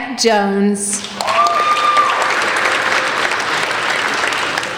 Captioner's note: applauding